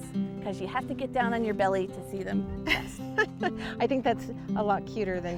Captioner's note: laughs